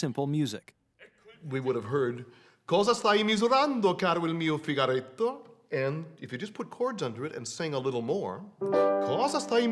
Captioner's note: speaks Italian